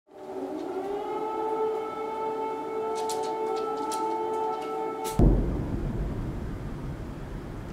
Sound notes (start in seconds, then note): 0.1 sirens blaring